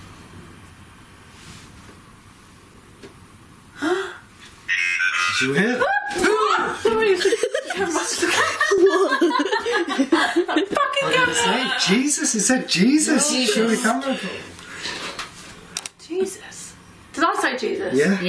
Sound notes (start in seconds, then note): 4.0 gasping; 5.1 voice from Ovilus; 5.5 laughing